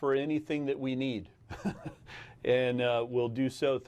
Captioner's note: laughs